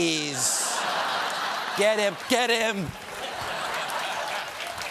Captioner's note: laughter